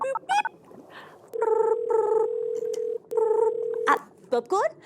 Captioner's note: ring ring ring ring